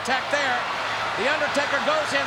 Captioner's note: audience cheers